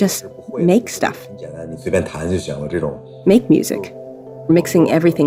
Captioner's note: speaking Mandarin Chinese